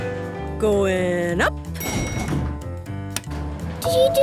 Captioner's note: elevator pings